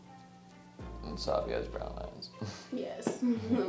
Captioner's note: laughs